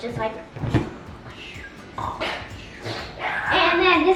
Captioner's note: snoring noise